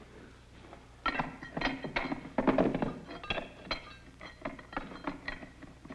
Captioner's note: tool thuds; tools clink and scrape